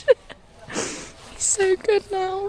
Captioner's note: laughs; sniffles